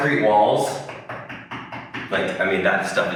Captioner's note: knuckles rapping